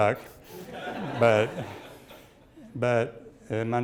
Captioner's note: audience laughs